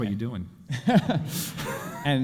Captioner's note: chuckling